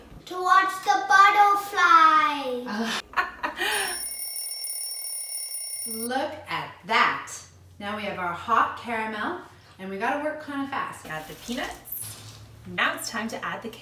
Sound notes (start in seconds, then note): 3.6 laughs; 3.6 alarm rings